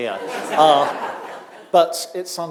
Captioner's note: audience laughing